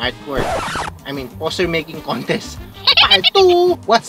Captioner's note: screech